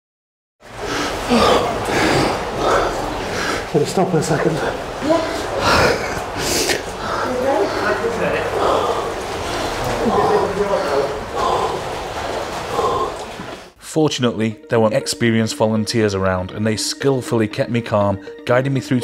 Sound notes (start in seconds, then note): 0.8 panicked Breathing; 10.3 panicked breathing